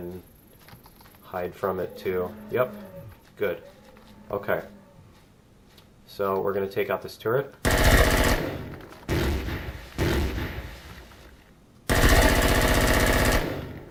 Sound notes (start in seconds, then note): 7.6 automatic gunfire; 9.0 explosion; 11.9 automatic gunfire